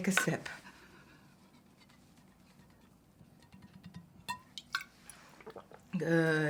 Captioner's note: breathing shakily